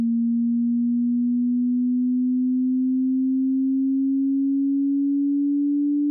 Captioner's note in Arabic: استمرار زيادة تردد النغمة